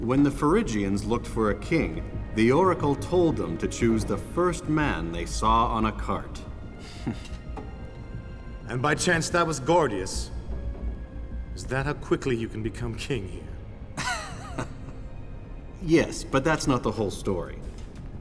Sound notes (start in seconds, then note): 6.9 gasps; 13.9 chuckles